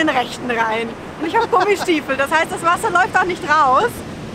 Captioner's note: laughs